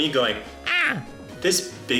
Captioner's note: screams